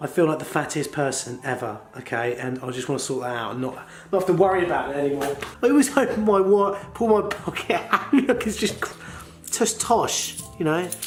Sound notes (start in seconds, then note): 7.6 laughs